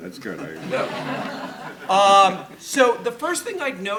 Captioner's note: audience laughing